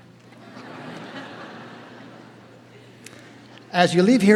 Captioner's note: audience laughing